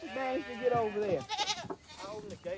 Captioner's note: goats bleating